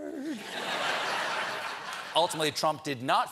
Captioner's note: laughter